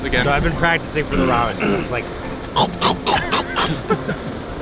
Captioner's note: exaggerated chewing noises; all laugh